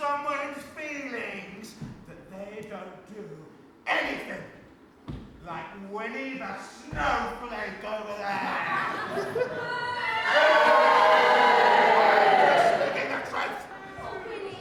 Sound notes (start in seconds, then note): 8.4 audience boos